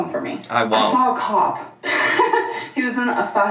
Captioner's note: chuckles